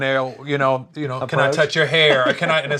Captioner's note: laughs